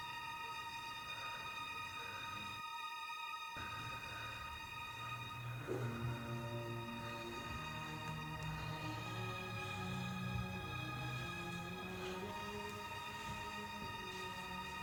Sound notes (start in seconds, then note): 1.3 labored breathing